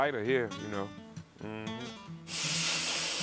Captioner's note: torch hissing